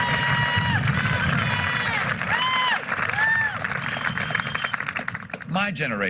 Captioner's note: applause